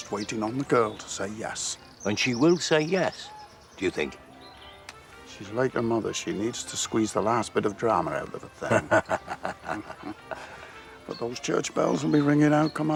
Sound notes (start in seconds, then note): 8.4 Reuben laughs